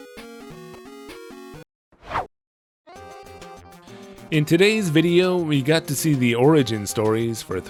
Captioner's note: whoosh